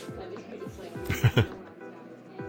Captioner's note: chuckling